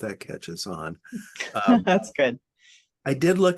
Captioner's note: laughing